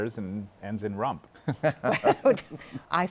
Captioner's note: laughter